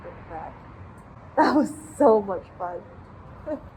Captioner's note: laughs